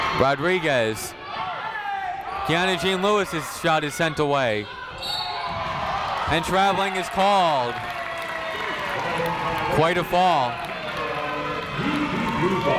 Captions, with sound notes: Rodriguez. Keyanna Jean-Louis's shot is sent away. (whistle tweeting) And traveling is called. Quite a fall.